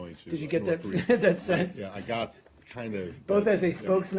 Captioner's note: laughter